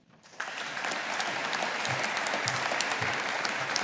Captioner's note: audience applauding